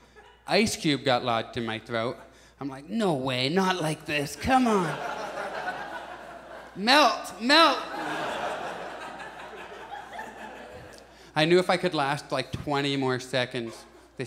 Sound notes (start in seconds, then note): 4.4 audience laughs